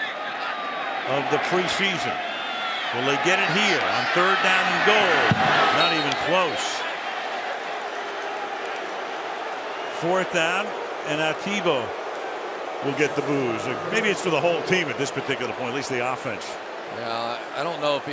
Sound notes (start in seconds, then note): 2.1 boos